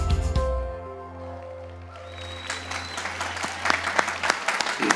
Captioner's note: applause